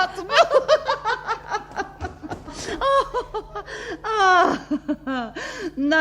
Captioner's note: the woman laughs